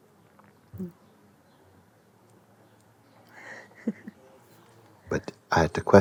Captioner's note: questioner 1 laughs